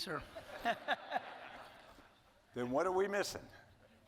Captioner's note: audience laughing